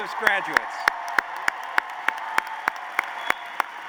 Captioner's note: applause